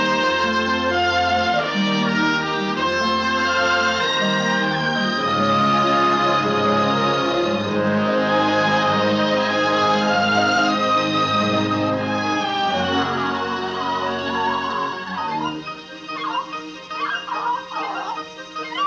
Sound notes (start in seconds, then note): 14.2 clucking